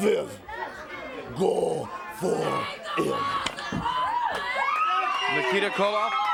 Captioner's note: belt thudding